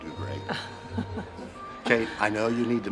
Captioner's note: Kate chuckles